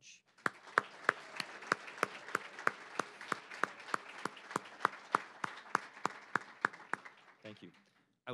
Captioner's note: applause